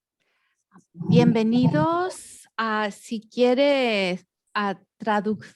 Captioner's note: speaks in foreign language